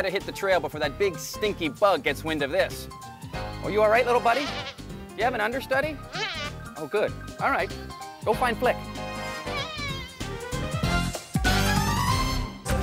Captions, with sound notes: I BETTER HIT THE TRAIL BEFORE THAT BIG, STINKY BUG GETS WIND OF THIS. ARE YOU ALL RIGHT, LITTLE BUDDY? [BUZZ] DO YOU HAVE AN UNDERSTUDY? [BUZZ] OH, GOOD. ALL RIGHT. GO FIND FLIK. [BUZZING]